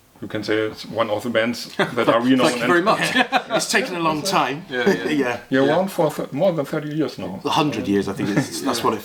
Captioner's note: laughing